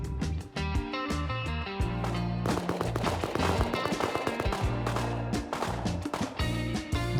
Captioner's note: gunfight in treeline